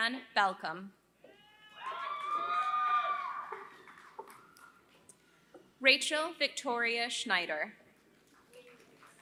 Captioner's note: applause; applause